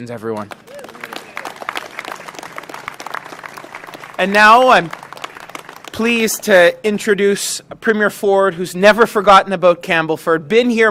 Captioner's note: applause